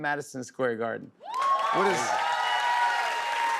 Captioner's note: cheers and applause